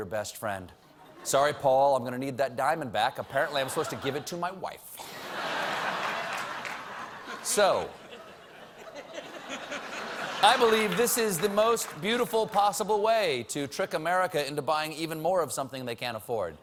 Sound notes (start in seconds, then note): 5.0 laughter